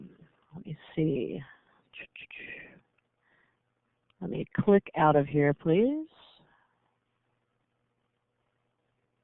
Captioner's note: pause